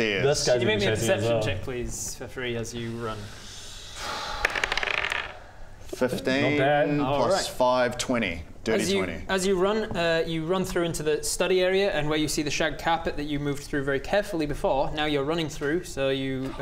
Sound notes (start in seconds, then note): 2.9 hopeless sigh